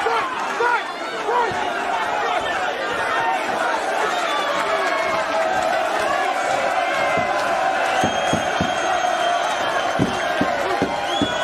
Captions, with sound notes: - Break, break, break! (crowd clapping)